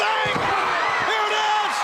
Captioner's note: crowd cheering